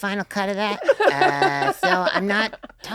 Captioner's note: laughing